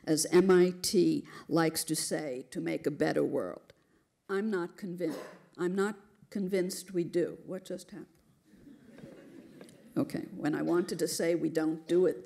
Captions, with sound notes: As MIT likes to say, to make a better world. I'm not convinced we do. What just happened? [LAUGHTER] OK, when I wanted to say we don't do it,